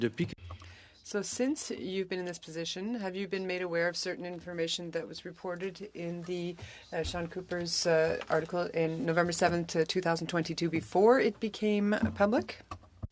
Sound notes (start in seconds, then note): 4.1 speaking French